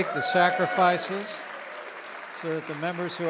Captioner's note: applause